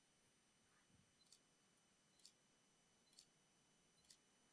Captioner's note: shutter clicking